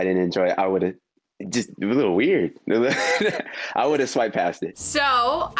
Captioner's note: laughs